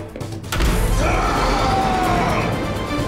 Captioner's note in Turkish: Haykırma sesi; Müzik - Gerilim